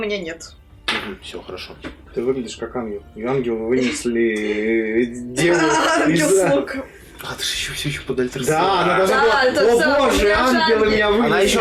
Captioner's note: table laughs